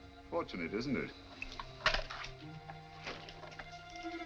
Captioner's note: none